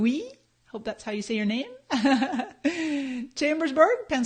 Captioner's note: laughs